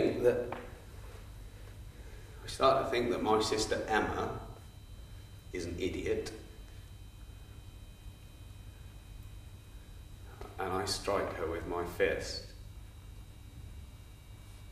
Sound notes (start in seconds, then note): none